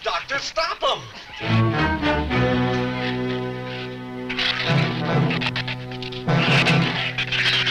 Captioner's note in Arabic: ثرثرة الزبابة; موسيقى أوركسترالية مشؤومة